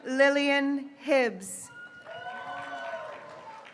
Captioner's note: graduates cheering